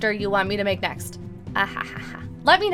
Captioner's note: laughs